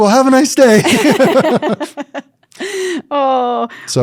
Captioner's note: both laughing